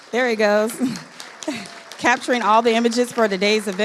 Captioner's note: audience applauding